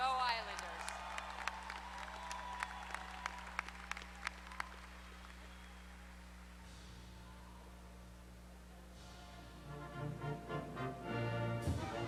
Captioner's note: applause